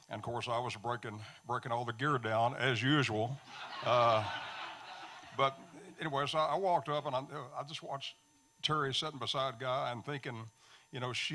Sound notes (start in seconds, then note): 3.4 audience laughing